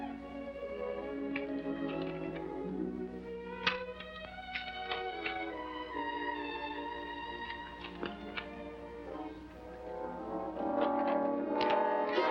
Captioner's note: rustling sound